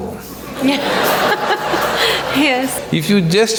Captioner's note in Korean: 웃음